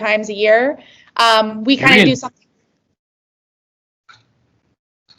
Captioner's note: awkward babel